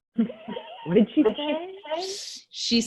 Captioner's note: laughs